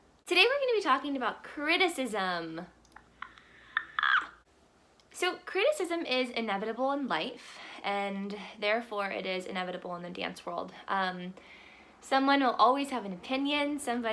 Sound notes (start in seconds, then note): 3.7 softly screaming